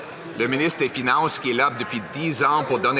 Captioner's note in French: voix de l'interprète